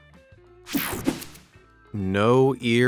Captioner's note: whooshing sound